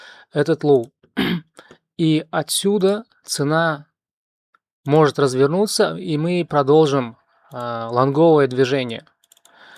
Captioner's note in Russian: откашливается